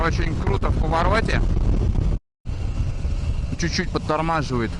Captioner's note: in Russian